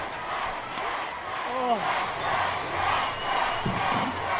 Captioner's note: audience shouts